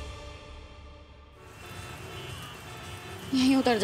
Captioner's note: traffic sound